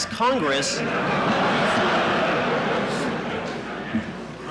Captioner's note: laughter in courtroom